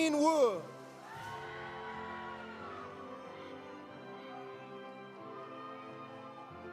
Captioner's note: audience cheering; audience applauding